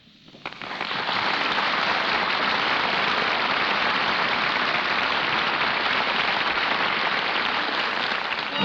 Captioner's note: applause